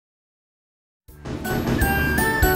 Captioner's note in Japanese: 花火の音